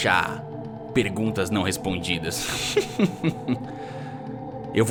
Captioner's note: chuckling